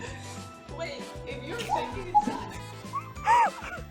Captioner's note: laughter